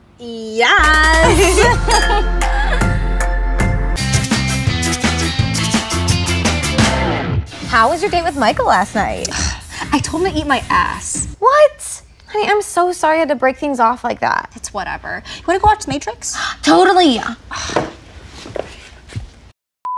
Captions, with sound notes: YYAAASS How was your date with Michael last night? Uhhh...I told him to eat my ass What? Honey, I'm so sorry you had to break things off like that. It's whatever. You wanna go watch The Matrix? (gasp) Totally!